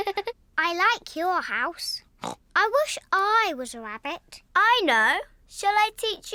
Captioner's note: giggles; snorts